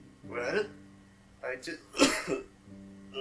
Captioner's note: coughing